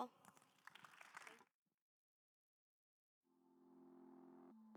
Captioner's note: attendees applauding